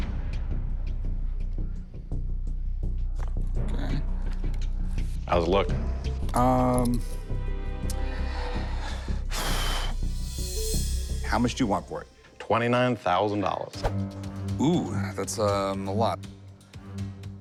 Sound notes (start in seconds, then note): 8.4 sighs